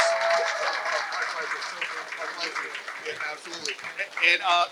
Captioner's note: applause